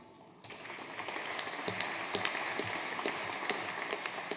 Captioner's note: audience applauding